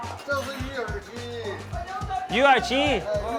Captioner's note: speaks in a foreign language; man speaks in a foreign language; speaks in a foreign language; man speaks in a foreign language